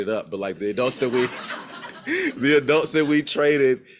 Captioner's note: crowd laughs; laughs